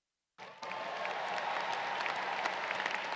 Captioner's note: applause